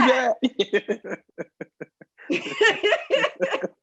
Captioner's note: all laughing